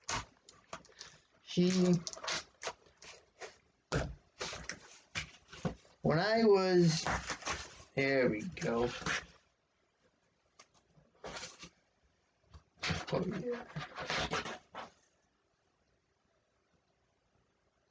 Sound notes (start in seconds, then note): 1.7 ripping of packaging tape; 11.2 shuffling of cardboard